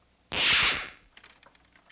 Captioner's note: scratch